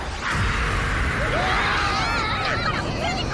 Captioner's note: all screaming